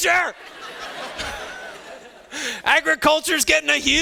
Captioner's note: students laughing